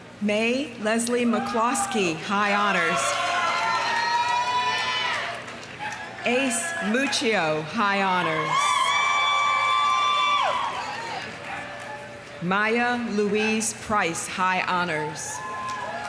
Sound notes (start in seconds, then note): 2.6 audience cheering; 3.0 audience applauding; 8.2 audience cheering; 9.2 audience applauding; 15.3 audience cheering; 15.4 audience applauding